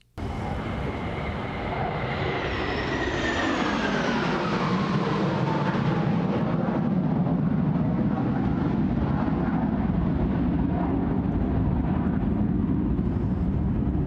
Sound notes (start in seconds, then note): 0.0 jet engines roaring